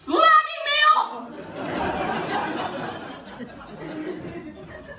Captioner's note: audience laughing